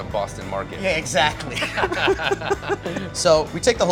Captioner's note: laughs